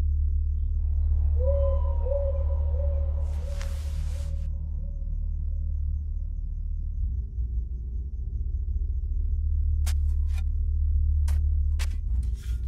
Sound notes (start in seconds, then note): 1.1 owl owing sound; 9.8 trowelling sand